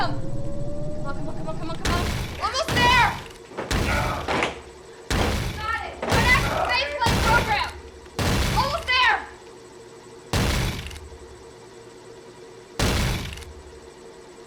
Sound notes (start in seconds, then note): 2.7 thunderous crashes; 3.8 Joe groans; 9.0 thunderous crashes